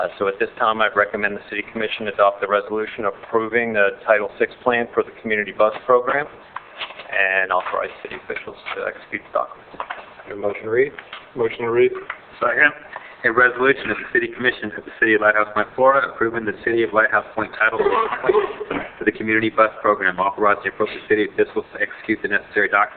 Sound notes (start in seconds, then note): 17.7 coughing drowns out speaker